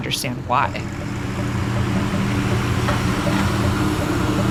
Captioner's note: train whooshing; clock ticking